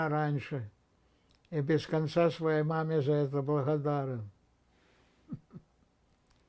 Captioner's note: laughing